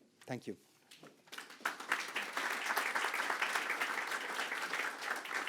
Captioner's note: audience clapping